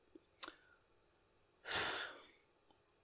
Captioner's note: sigh